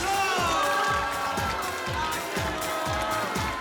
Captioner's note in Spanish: Gritos y exclamaciones